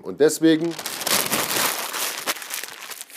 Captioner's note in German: Rascheln